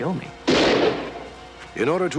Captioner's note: gunshot